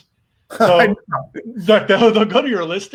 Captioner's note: laughs